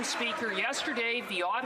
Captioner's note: applause